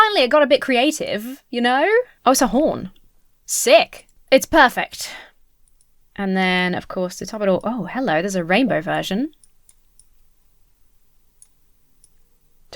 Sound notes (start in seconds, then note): none